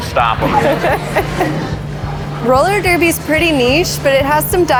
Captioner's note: giggles